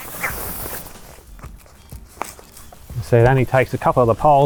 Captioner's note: material rustling